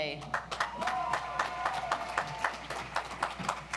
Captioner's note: audience applauds